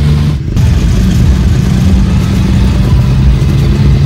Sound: cars, music

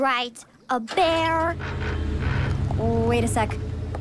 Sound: engine turning over

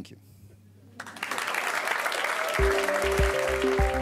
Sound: audience applauding; bright electronic music

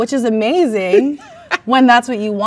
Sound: man laughs

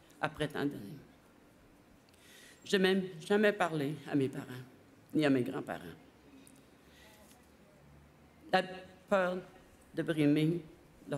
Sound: speaking French

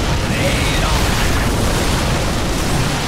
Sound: various game sounds

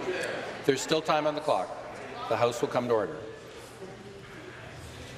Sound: conversation din

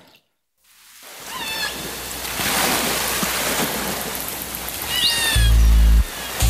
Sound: animal squawking; raining

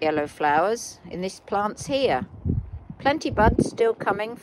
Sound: wind whishing

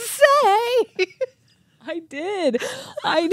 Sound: chuckling

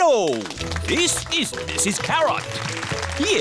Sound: applause

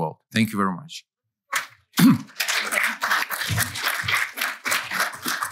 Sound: applause

